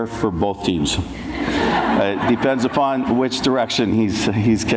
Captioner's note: audience laughs